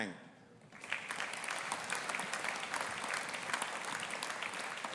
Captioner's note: audience applauding